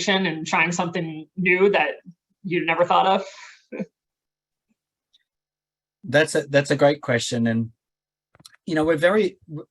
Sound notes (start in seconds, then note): 3.9 chuckling